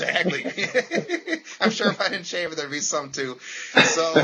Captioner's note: laughter